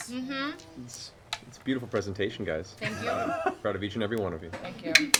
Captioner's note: laughs